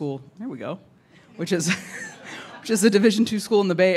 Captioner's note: laughs